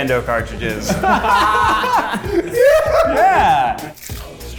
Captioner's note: group laughs